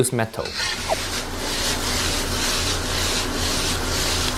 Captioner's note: food sizzling